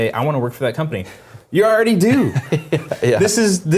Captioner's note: laugh